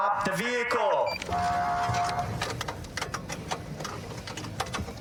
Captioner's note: horn blaring